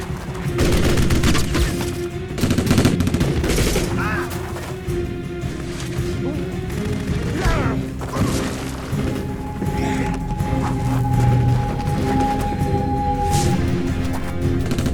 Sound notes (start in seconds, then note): 4.0 man shouts; 8.4 Jack grunts